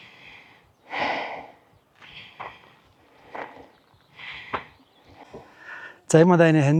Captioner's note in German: seufzt